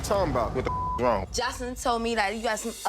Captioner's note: beep